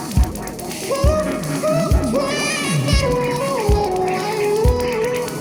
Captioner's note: electronic vocalizing